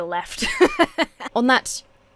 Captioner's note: laughs